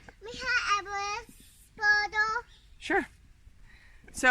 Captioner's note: speaking Spanish